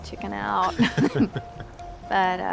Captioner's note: chuckling